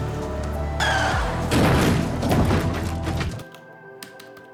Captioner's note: tires squealing